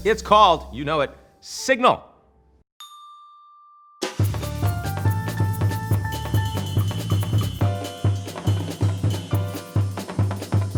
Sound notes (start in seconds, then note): 2.8 bell dings; 4.2 upbeat jazz music